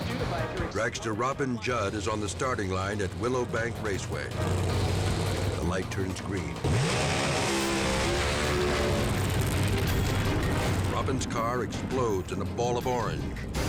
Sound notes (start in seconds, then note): 4.4 engines rumbling; 4.4 tense music; 6.9 engine roars; 6.9 flames whooshing